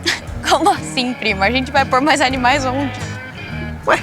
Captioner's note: Dininha laughs